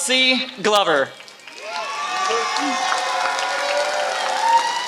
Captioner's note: applause